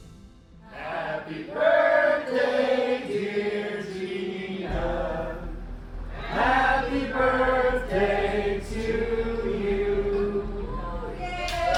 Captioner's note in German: Applaus